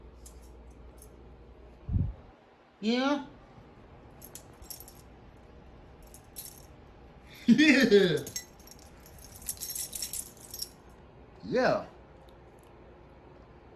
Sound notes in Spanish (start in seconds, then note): 4.8 Ella se ríe